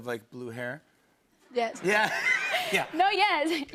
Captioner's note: laughter